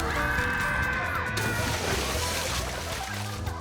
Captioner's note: people screaming; water splashing; people laughing